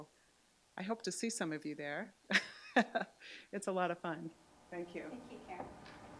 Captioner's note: chuckles